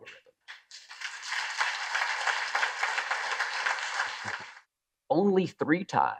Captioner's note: applause